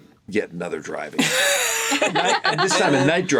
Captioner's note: laugh